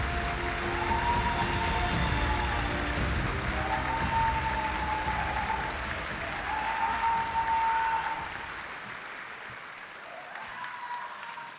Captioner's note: the audience is cheering